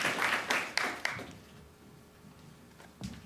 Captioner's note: applause